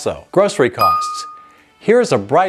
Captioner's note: bell dings